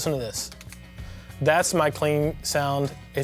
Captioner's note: humming